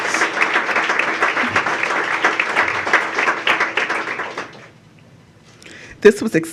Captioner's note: applause